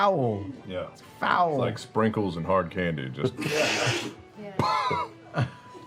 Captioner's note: dry puffing